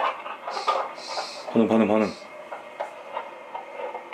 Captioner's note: The sound from the EMF device